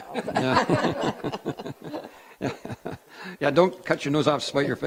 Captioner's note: giggling lightly